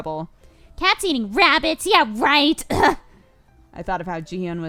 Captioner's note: scoffs